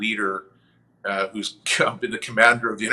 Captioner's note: chuckles